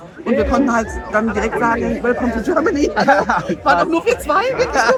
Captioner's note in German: gelächter